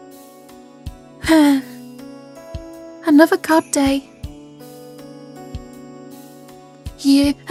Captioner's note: sigh